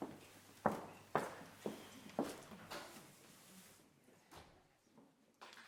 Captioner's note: footsteps echoing